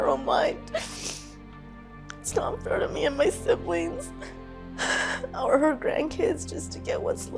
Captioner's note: sniffles